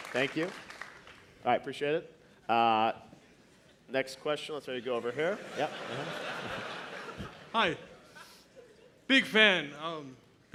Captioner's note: applause